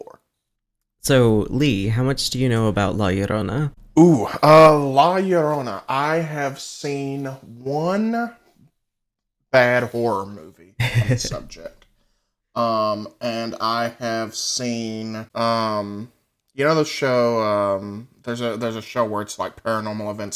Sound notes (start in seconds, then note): 10.8 laughs